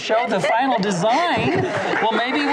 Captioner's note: audience applauds